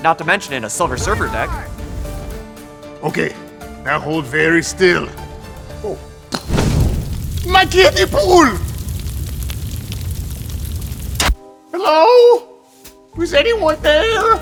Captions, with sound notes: not to mention in a Silver Surfer deck. - Okay, now hold very still. Oh. (gun clatters) (fire roaring) My kiddie pool! - Hello? Is anyone there?